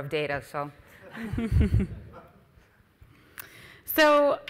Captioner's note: audience and other panelists chuckles